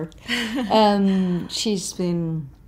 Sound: Naomi chuckles

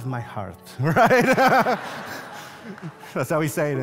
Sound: congregation laughs

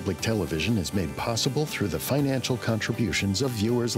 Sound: voiceover

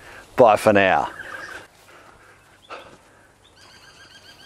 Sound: birds chirping

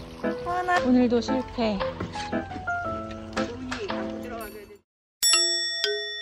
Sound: swimming

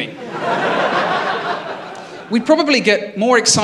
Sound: laughter

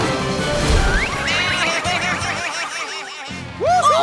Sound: bleating

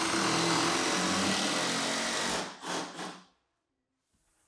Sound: drill whirring

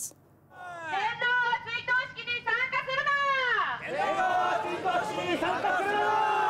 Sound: people shouting in foreign language

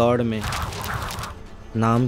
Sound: pages rustle and blow

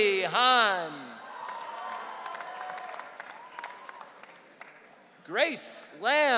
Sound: audience cheering

